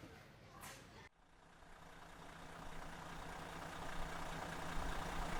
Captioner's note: engine sputters